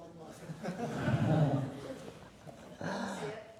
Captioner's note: laughter